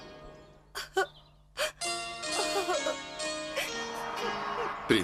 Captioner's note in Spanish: Romy llora